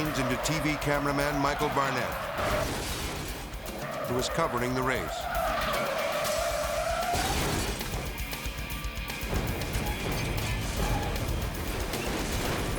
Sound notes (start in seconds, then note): 2.2 car crashing; 3.7 car skidding; 5.2 dramatic music; 7.7 car crashing; 9.4 intense dramatic music